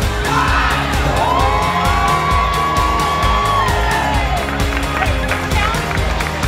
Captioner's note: cheering